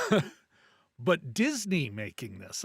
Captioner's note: laughs